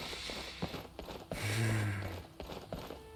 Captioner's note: sigh